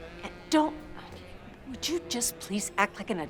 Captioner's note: sighs